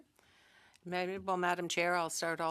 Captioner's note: speaking French